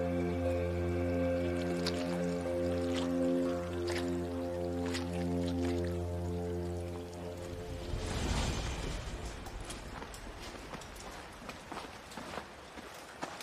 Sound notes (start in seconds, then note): 1.4 liquid squelching; 9.5 footsteps thumping